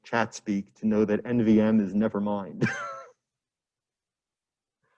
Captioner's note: laughs